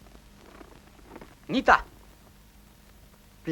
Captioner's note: speaking Udegei